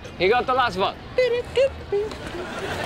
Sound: humming

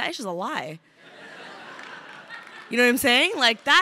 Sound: crowd laughing

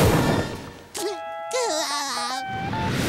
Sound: laughing

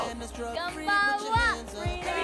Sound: speaking language other than English

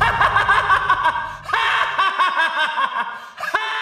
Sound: laughs

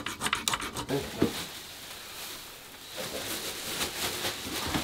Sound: scraping; bag ruffling

